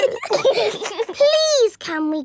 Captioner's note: giggling